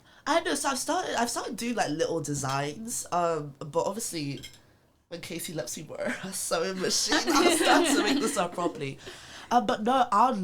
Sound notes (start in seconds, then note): 6.8 laughs